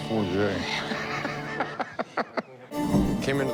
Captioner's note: laughs